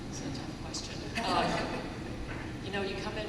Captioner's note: laughter